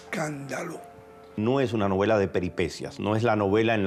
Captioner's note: speaking Spanish